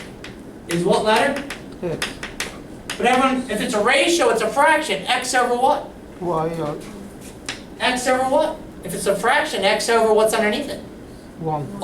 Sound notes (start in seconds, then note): 2.1 voiceover; 11.7 voiceover